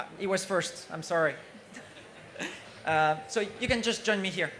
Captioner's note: laughter